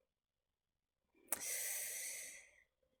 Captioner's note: sharp intake of breath